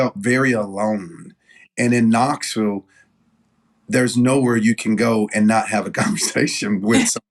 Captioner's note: laugh